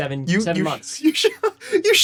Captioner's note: laughs